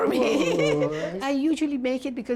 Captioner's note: laughter